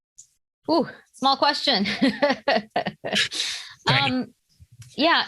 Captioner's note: laughs